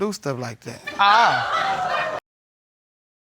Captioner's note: audience laughing